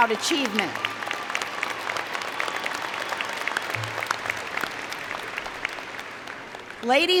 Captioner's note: applause & Cheer